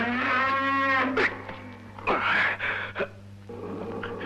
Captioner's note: grunting